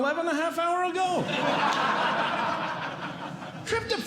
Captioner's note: audience Laughing